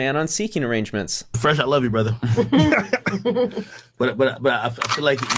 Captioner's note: people chuckling